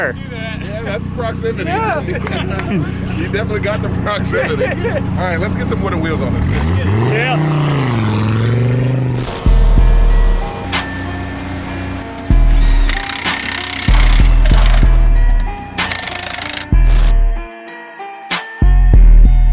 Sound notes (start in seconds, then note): 9.0 mellow music with slow beat; 13.1 pneumatic drilling